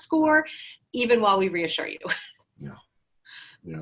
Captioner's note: chuckles